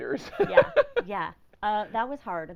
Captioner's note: laughing